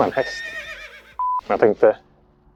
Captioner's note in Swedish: Gnäggande häst